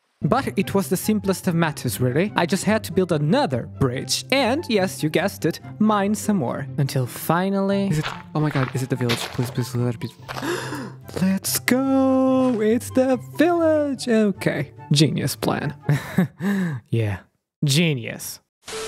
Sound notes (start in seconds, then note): 10.3 gasp; 15.9 painful laugh